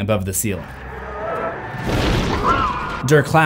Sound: creatures growling

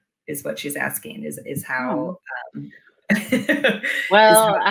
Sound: laughs

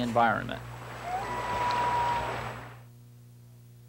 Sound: loon calling

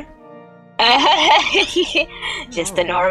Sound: nervous laugh

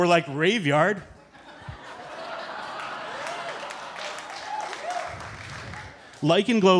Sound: audience chuckling; audience cheering

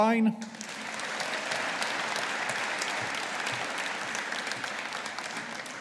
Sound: audience applauding

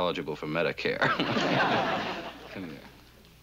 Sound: chuckles

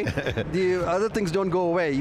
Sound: laughing

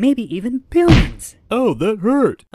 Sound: smack

